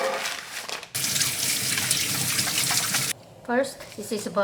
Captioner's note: water running